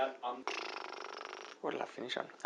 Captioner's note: bubbling